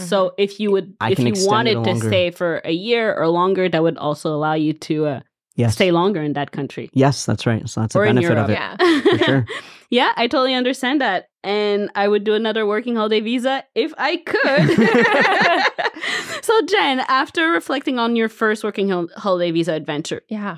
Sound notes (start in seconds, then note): 14.4 all laughing